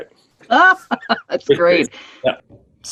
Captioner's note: laughter